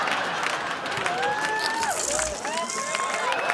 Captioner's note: electricity buzzes